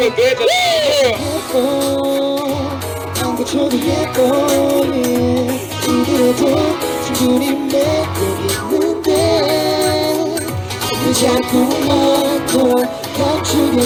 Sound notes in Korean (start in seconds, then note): none